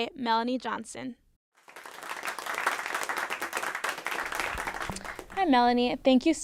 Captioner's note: clapping